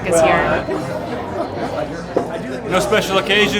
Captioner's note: men chatting